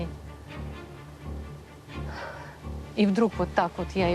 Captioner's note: sighs